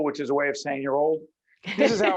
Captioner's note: laughing